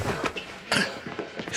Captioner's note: choked gasp